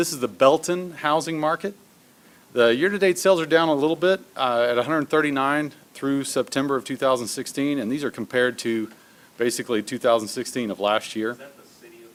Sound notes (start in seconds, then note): none